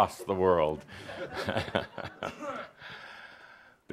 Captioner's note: chuckles; chuckles again